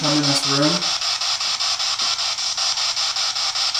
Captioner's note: static